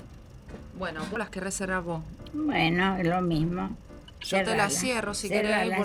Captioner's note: speaking in Spanish